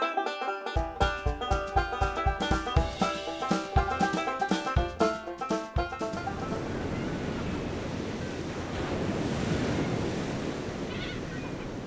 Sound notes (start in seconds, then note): 5.8 tropical beach ambience